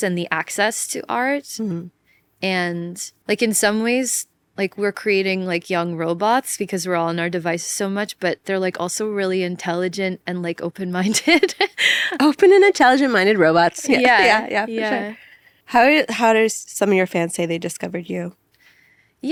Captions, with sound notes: and the access to art, and, like, in some ways, like, we're creating, like, young robots because we're all on our device so much, but they're, like, also really intelligent and, like, open-minded. (laughs) - Open and intelligent-minded robots, yeah, yeah, for sure. How did some of your fans say they discovered you?